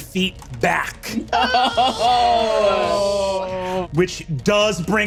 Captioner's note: groans